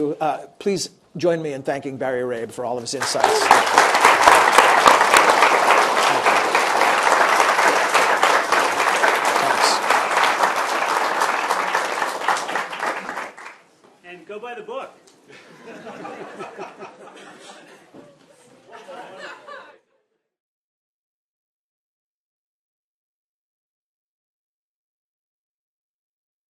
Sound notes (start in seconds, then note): 10.3 applause